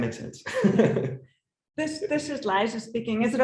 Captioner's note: laughs